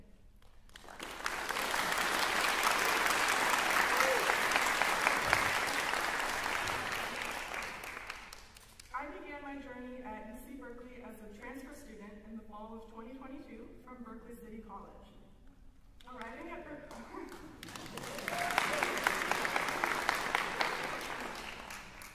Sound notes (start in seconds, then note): 0.4 applause; 17.6 cheering, applause; 17.8 cheering